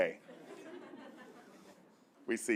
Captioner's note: laughter